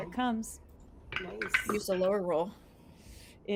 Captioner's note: dice rolls